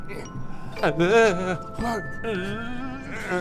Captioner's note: telepathing noises